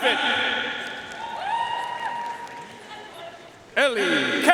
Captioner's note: audience cheering and applauding